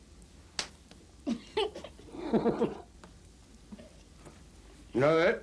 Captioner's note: laughs